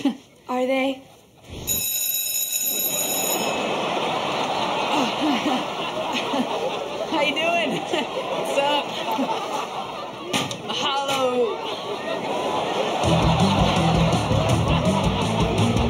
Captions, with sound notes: Are they? [ringing] [chuckles] How ya doing? What's up? Mahalo. [laughing]